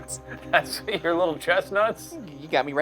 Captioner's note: laughing